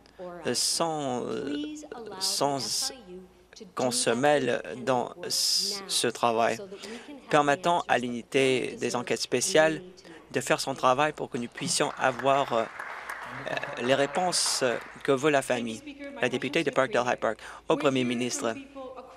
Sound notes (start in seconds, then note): 15.1 applause